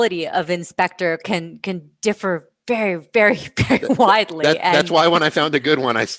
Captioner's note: laughter